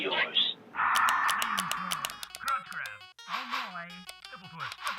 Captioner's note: clicking; electronic music